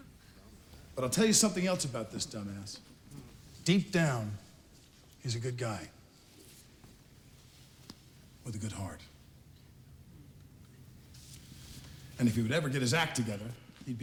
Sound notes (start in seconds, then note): none